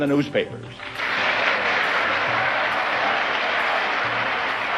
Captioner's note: audience applauding